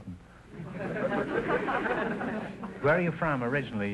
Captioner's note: audience laughter